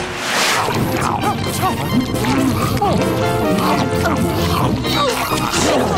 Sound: chewing; gagging

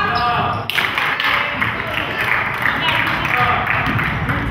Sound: crowd claps

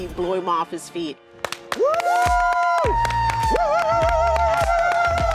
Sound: crowd cheering

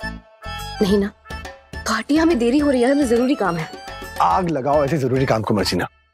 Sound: none

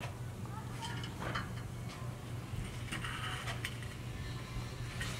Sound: grate being moved

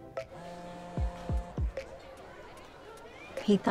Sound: phone vibrates

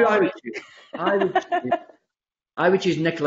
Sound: laughs

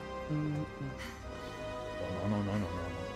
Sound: humming

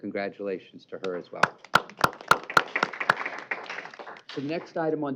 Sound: applause

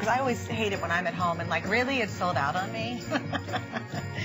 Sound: laughter

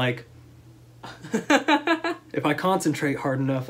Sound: laughter

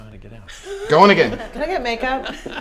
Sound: laughter

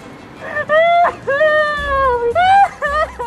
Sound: hysterically cries

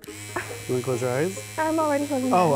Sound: sheers buzzing

